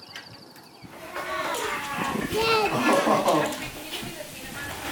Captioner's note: children cheering